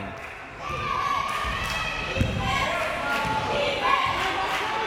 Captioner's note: crowd members chanting